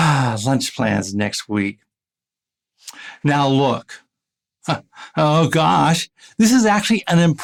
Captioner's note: sigh